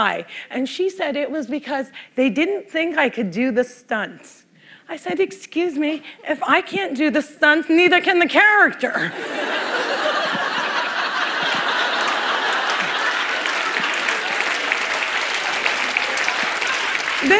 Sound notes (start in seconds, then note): 9.1 laughter; 13.3 applause